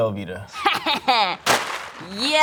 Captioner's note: laughs